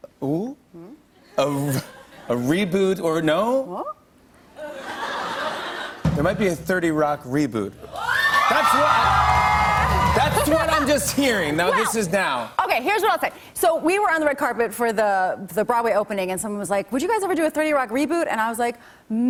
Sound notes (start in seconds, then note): 1.7 laughter; 4.6 laughter; 7.8 cheering